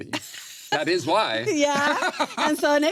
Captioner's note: laughs